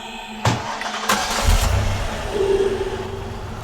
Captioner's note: engine Starting